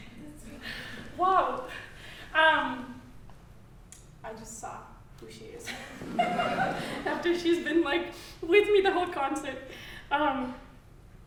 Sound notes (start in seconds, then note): 5.7 audience chuckling